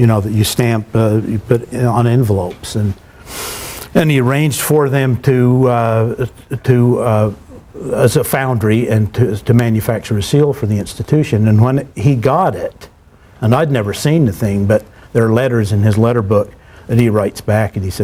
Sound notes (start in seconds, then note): none